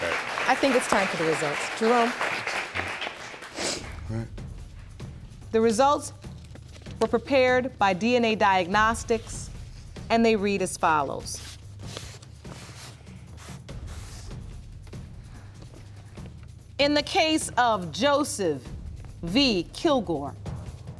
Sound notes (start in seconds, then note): 3.4 sniffling